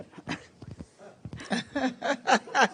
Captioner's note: laughter